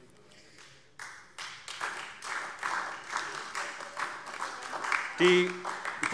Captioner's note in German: Beifall SPD